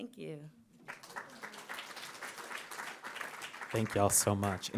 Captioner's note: audience applauds